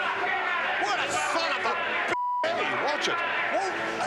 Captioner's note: beep